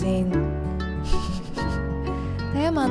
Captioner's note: chuckled